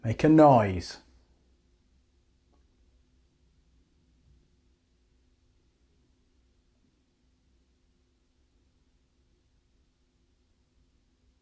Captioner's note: silence